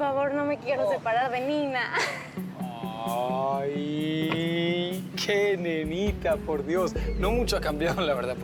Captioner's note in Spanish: Risas